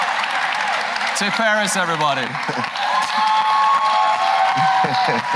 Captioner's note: applause